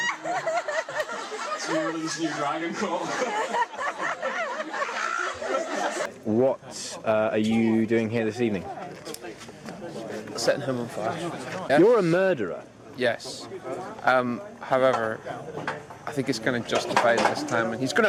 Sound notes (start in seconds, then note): 3.0 they laugh; 4.8 he screams